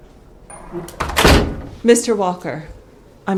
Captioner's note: door closes